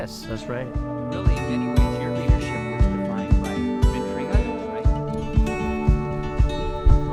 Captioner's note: gentle music; indiscernible chatter